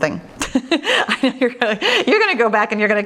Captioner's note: laughs